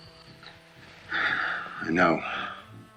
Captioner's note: sighs